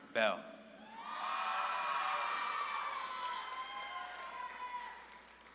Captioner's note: audience claps and cheers